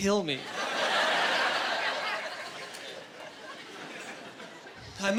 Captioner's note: laughing